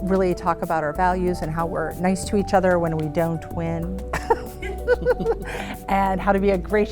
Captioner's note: laughs